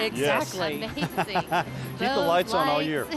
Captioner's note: laughing